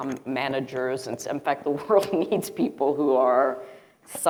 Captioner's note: chuckling